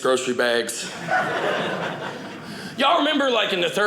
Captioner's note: audience laughing